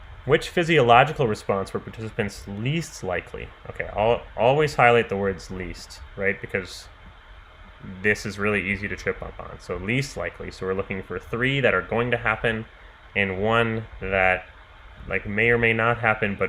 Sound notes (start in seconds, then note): none